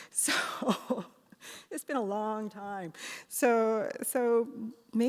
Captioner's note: laughs